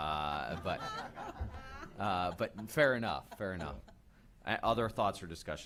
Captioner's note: laughter